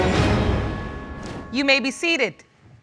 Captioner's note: none